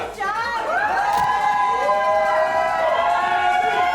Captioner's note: friends cheer